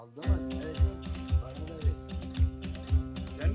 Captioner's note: speaking Turkish